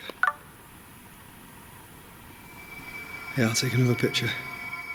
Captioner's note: phone beeping